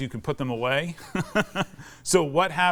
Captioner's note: laughs